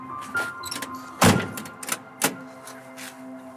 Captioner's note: car door closes